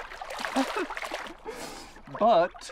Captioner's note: laughing